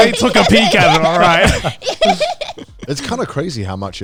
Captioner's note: everyone laughing